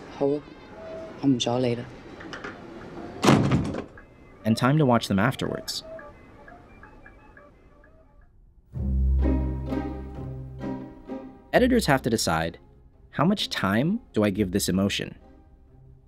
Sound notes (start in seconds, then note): 0.2 speaking Chinese; 2.8 door shuts